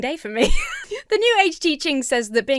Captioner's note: laughs